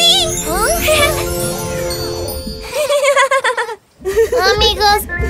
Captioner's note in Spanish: Risas